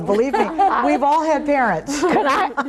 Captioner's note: all laughing